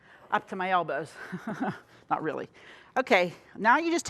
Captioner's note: chuckles